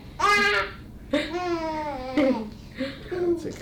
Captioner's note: baby coos